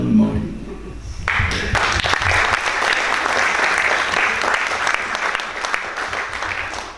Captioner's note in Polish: oklaski